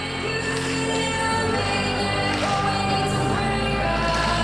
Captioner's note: audience claps along to the music